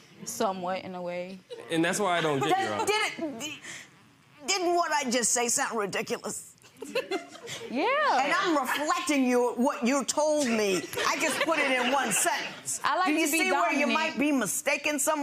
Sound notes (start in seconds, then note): 10.7 laughing